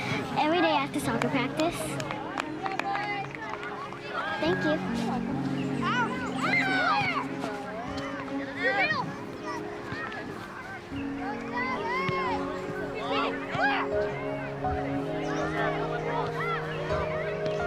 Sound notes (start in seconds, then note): 5.7 kids squealing; 14.8 mellow music